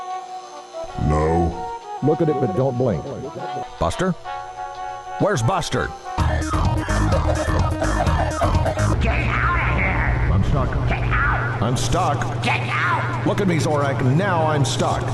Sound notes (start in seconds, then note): 6.0 club music; 6.9 laughing